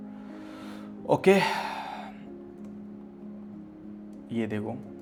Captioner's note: deep breathing sound